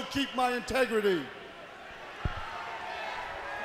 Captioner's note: crowd chatter